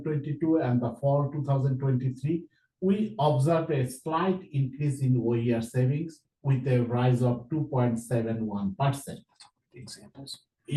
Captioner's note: foreign language